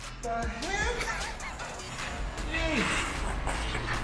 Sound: laughing

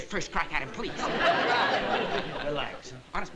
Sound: laughter

